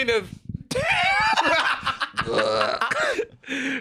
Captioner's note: both laughing